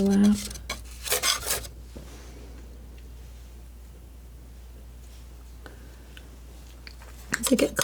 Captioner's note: scratching